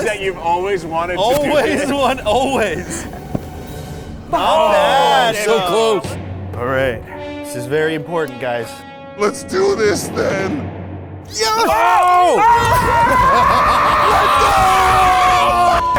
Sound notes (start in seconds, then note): 2.4 tense instrumental music; 4.3 people exclaiming; 6.0 dramatic rumbling music; 11.3 people cheering; 13.0 people shouting; 14.9 people cheering